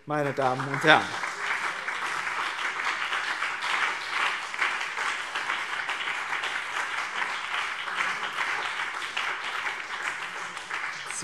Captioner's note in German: Beifall BÜNDNIS 90/DIE GRÜNEN und CDU